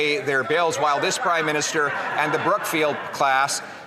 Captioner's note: some Applause